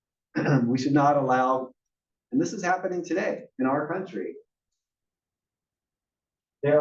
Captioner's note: cough